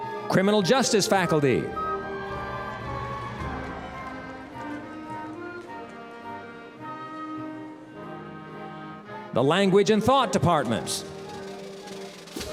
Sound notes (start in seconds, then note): 1.8 cheering; 5.4 orchestral music